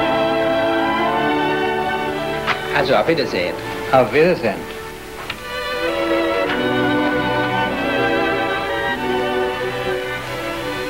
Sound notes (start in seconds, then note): 2.9 clerk speaking in foreign language; 4.0 speaking in foreign language